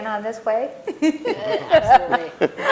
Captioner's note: chuckles